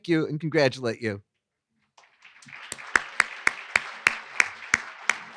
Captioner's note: applause